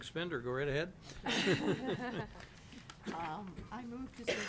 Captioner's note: laughing